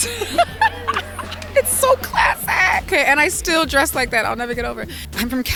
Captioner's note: laughing